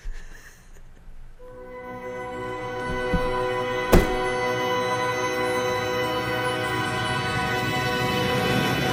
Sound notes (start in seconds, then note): 2.6 shove